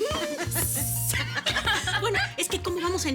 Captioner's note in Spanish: Risas